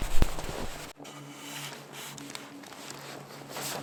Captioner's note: shovel digging in snow